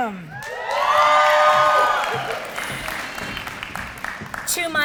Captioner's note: applause